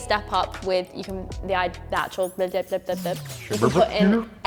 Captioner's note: stutters